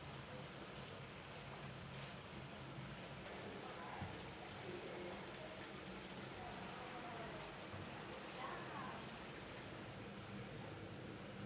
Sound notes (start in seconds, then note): none